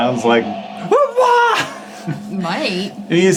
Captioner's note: imitates screaming